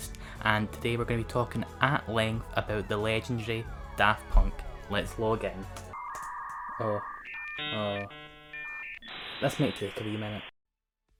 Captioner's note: distorted dial-up noise